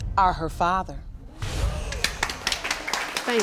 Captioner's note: crowd applaudes